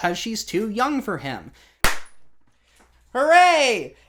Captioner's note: confetti cannon